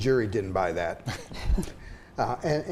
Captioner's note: everyone chuckles